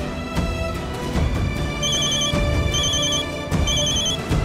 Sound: phone ringing

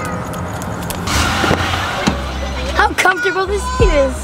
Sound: running footsteps

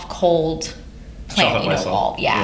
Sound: laughter

